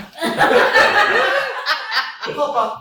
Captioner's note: laughter